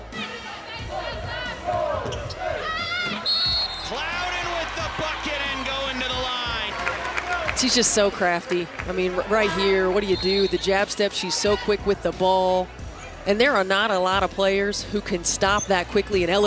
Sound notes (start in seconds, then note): 0.2 crowd cheering; 3.1 whistle blowing